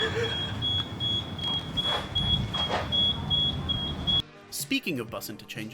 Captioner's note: beeping noise; giggling; beeping noise